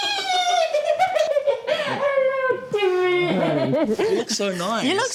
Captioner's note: squeals; laughs